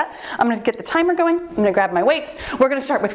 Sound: timer beeps

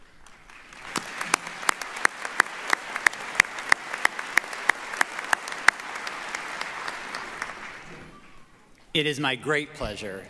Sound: applause

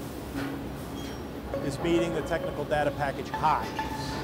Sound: metal clanking

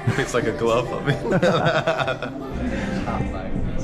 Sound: both laughing

